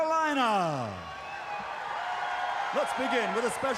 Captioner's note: crowd cheering